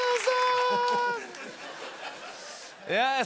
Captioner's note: laughter